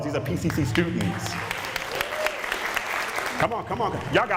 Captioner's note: applause